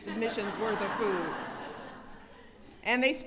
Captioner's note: laughter